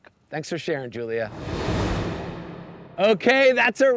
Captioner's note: graphics whooshing